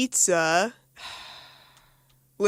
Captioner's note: sigh